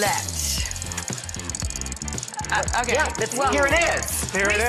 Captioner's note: upbeat music; wheel spinning